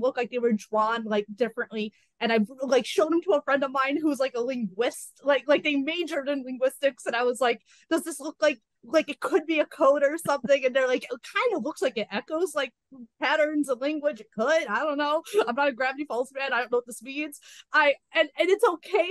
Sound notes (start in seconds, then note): none